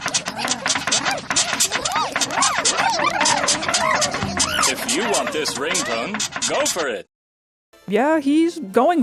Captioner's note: bed squeaking and excited frog noises